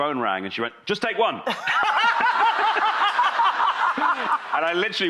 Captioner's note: laughter